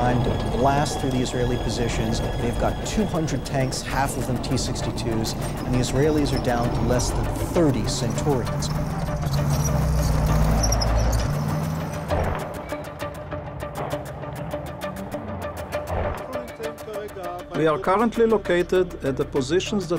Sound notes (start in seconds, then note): 9.5 suspenseful music; 16.9 man speaking in foreign language